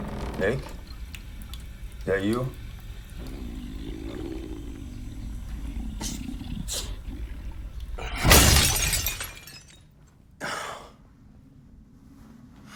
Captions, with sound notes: Nick? That you? (growling) (shattering) (Nick sighs)